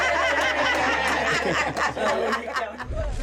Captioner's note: laughter